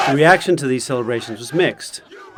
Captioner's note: crowd celebration